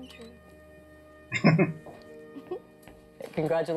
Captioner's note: chuckling